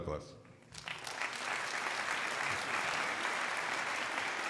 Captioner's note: crowd applauding